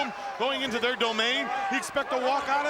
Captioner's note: crowd clamoring